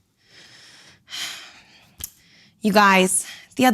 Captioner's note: woman sighing